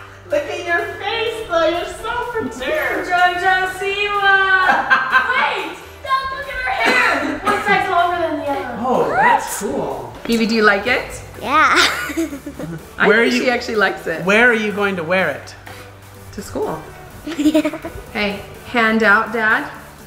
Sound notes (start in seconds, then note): 4.5 laughs; 11.4 laughs; 17.2 laughs